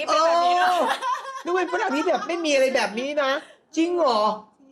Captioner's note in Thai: เสียงหัวเราะ